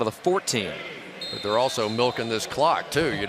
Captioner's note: pa announcement